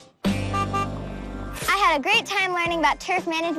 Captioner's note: horn honks